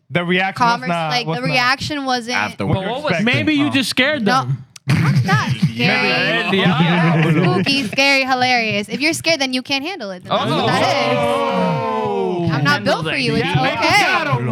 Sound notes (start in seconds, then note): 7.0 laughing; 10.3 all Exclaiming